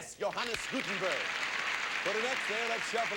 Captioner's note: audience applauding